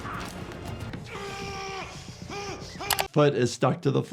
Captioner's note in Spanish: La persona apuñalada gime